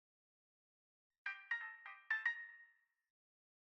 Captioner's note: chime